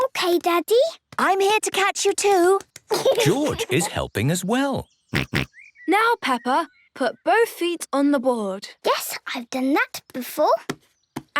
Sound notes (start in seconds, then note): 5.1 snorts